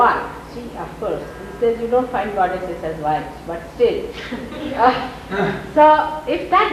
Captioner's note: laughter